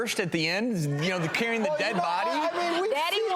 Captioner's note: audience laughing